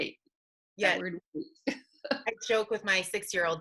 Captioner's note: laughing